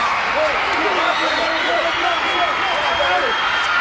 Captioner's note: fans screaming